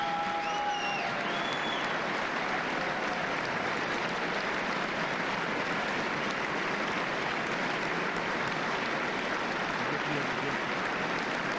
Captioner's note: applause and cheers